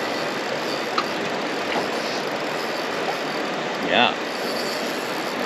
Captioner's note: reel spinning